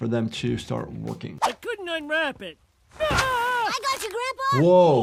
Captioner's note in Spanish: grita